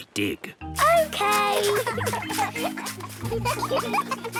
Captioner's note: giggling